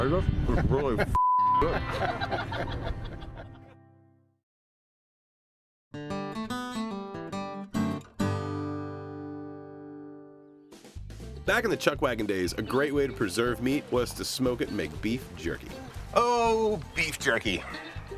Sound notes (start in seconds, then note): 1.6 crew laugh; 5.9 acoustic guitar riff